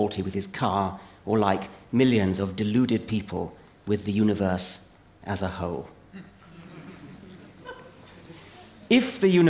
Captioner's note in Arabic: ضحك